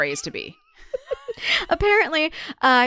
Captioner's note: laughs